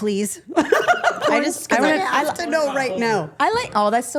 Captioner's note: women laughing